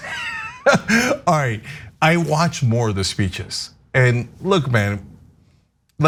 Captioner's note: laugh